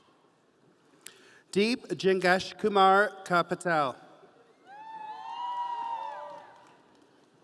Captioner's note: audience cheering